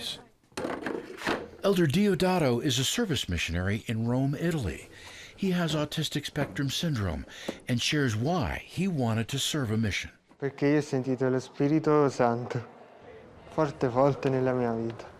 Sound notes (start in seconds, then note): 0.5 chairs clattering; 10.5 speaking Italian